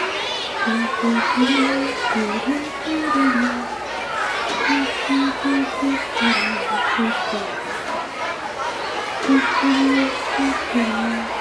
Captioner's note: children cheer and chatter